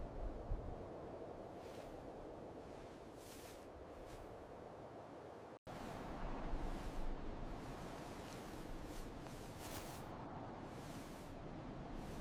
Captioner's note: footsteps